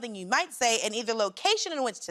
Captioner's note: none